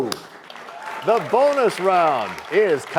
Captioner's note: applause